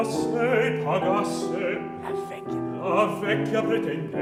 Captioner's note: whispers